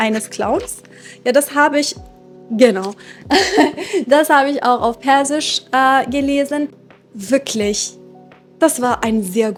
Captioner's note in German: japst